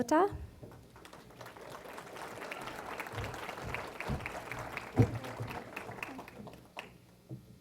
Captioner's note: applause